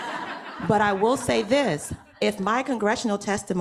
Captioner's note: audience laughing